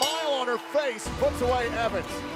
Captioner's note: bell ringing